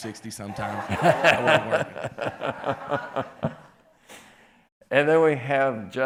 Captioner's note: people laughing